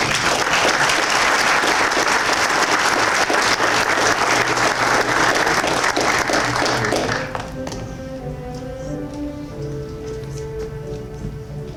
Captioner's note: applause